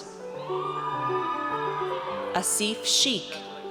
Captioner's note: audience cheers